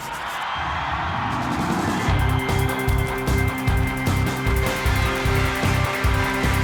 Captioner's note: dramatic intense music; crowd cheering; dramatic music